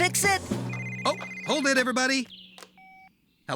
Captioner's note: cell Phone Rings